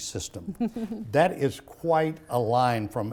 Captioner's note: chuckles